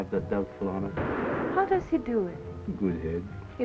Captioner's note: guns firing